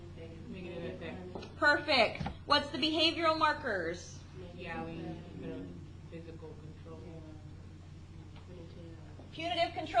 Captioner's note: class mumbling